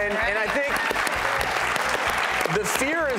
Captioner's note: clapping